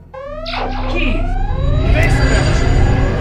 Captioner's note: siren wailing; device beeping; spaceship whirring